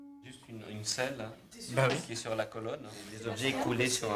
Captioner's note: French spoken audio